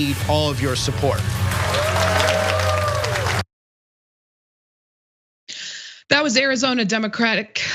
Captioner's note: applause